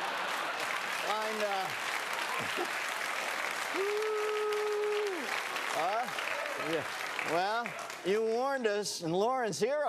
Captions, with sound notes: [laughter] Line, uh... [applause] Whoo! Huh? Well, you warned us,